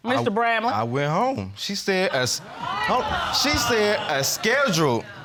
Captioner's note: audience exclaiming